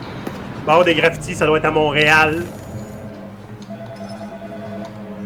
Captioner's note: condescending tone